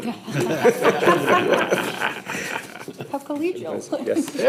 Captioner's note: laughter